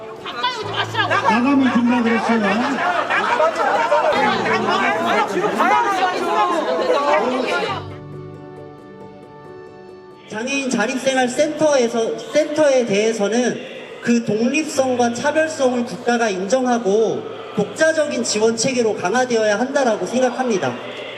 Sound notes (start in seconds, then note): 4.5 sounds of people arguing